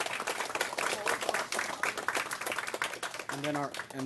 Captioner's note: applause